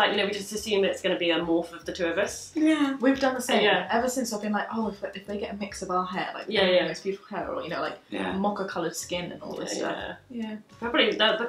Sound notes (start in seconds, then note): none